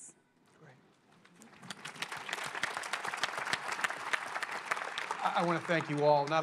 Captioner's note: applause